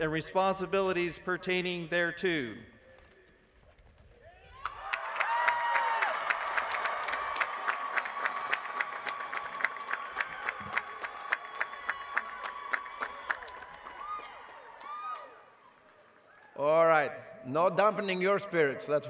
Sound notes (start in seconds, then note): 3.6 applause